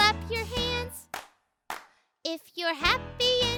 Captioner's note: Marvie claps